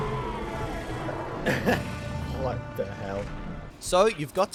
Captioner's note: laughs